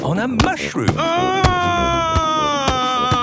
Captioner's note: shouting